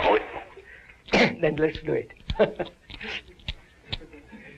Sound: laughs

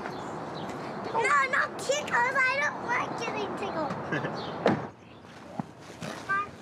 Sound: chuckles

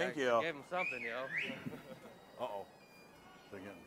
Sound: loud whistle, distantly

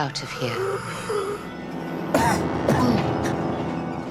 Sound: wheezing, coughing

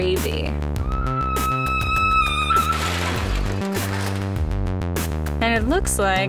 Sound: A long scream, and then a thud

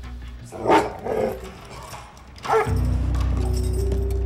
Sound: dog barking

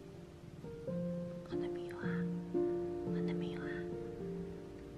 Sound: whispering

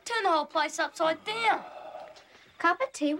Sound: Pop sighs

